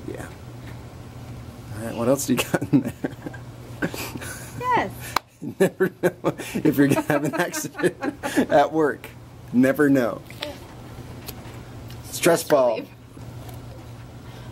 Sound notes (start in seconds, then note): 2.4 chuckles; 5.5 laughs